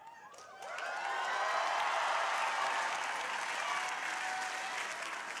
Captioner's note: crowd applauding